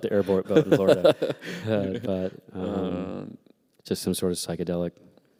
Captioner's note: laughter